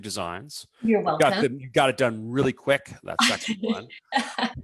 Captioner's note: laughs